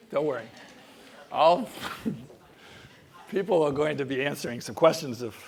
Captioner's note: laugh